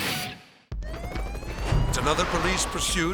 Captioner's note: siren blaring